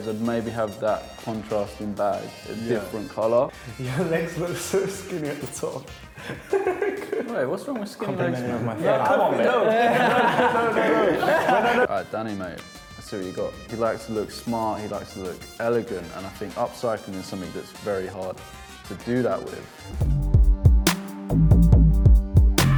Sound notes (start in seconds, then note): 6.0 laughs; 19.9 hip hop music